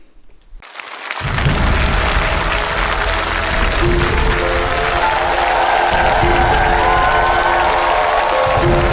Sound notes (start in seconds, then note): 1.0 clapping; 6.1 crowd cheering